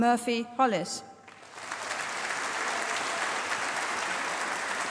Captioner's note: applause